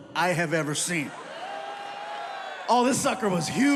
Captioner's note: audience cheering